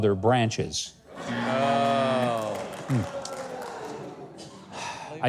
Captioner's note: audience laughing